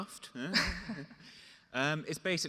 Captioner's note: chuckles